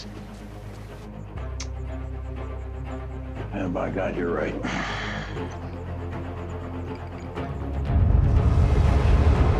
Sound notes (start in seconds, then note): 4.6 sighs